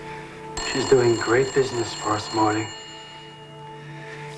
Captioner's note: ringing continues